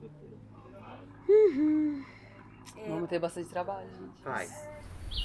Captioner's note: sigh